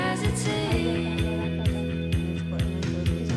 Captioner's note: indistinct conversation